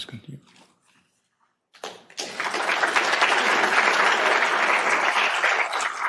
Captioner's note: applause